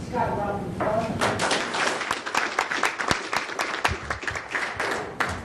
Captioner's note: audience applauding